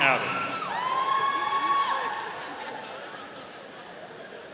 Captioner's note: audience cheering